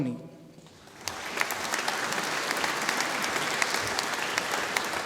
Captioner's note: audience applauding